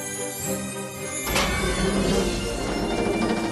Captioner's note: creaking